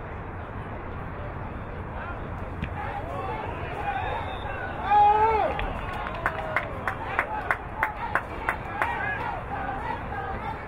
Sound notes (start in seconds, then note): 3.9 whistle blowing